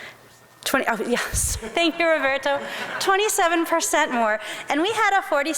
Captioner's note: laughs